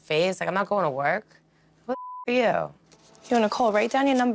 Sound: beep

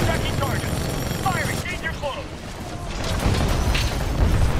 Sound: radio

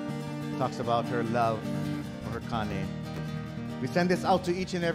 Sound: speaking in Hawaiian

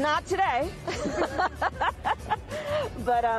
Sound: Kamala laughs

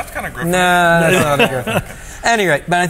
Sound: laughs

